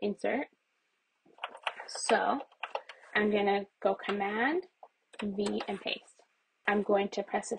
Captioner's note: keyboard typing; typing continues